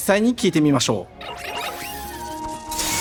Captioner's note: gentle music; squealing